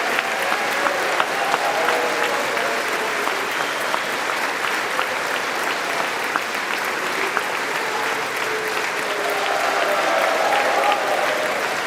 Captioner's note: applause